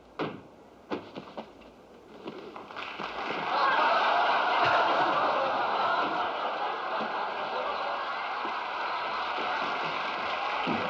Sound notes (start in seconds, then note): 3.5 laughter; 7.4 applause; 10.7 laughter